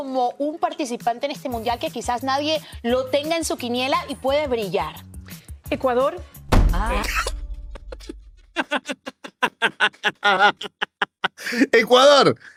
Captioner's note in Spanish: risas